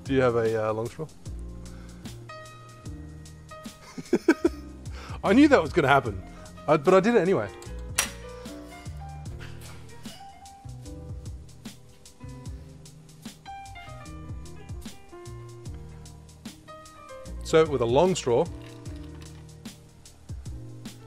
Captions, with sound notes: Do you have a long straw? (laughs) I knew that was gonna happen but I did it anyway. Serve it with a long straw.